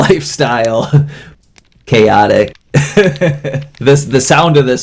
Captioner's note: laughs